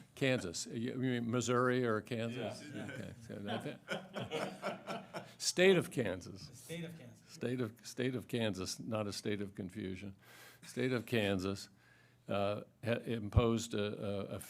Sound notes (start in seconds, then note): 2.6 laughter